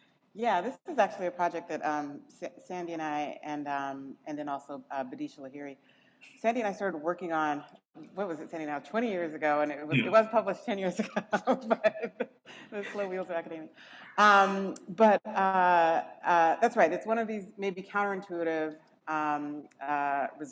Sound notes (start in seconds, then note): 11.2 laughs